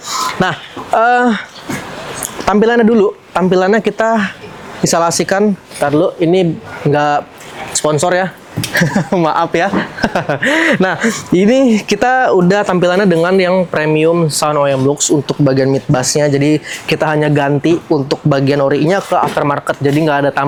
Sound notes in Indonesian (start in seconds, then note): 8.6 tertawa